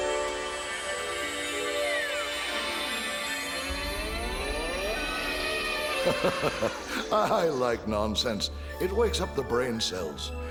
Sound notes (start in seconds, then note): 6.0 Seuss chuckling